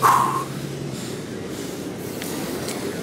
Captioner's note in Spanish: Sigue jadeando